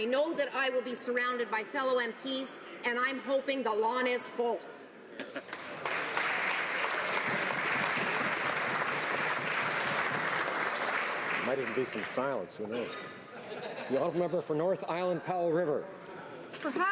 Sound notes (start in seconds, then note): 9.7 some Applause